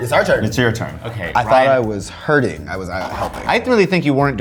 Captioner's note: wheel clicking